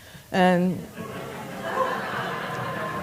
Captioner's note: laughter